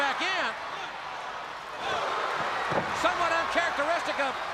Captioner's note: crowd cheering